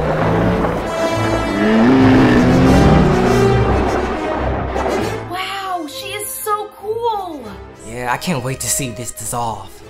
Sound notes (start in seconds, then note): 0.0 roaring